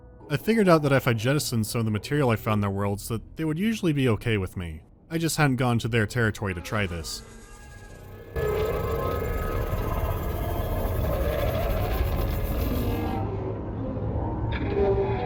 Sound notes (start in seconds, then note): 7.4 resonating screeching